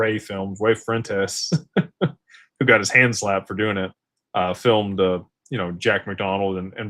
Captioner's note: laughter